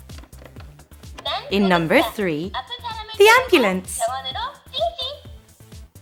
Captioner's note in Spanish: Suena una voz en Coreano